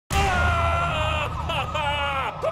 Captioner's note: screaming